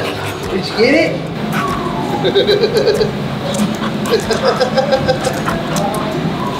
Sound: laughs

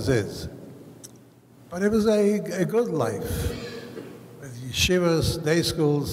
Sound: speaks foreign language

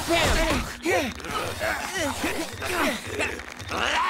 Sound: grunting

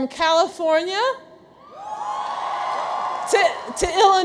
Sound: audience cheers

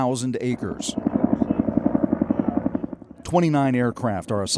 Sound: helicopter flying overhead

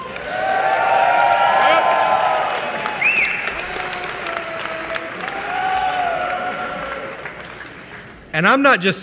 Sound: applause

